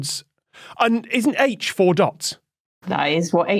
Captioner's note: gasp